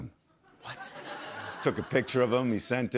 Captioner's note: laughter